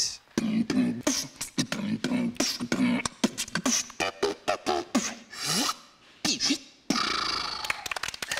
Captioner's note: beatboxing; clapping